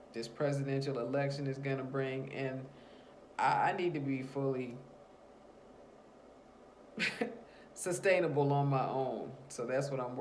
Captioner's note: long pause, then a chuckle